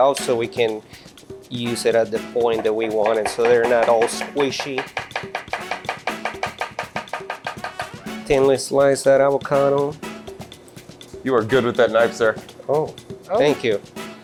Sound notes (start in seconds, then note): 5.2 knife banging